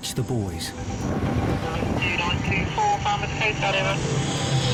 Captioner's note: radio cackles